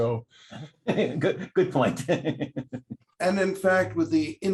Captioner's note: laughter